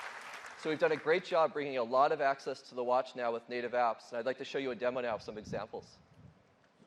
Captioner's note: applause